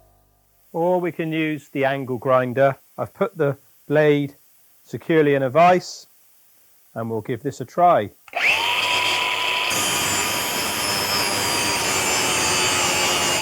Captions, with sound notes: Or we can use the angle grinder. I've put the blade securely in a vice and we'll give this a try. (grinder whirring) (metal grinding)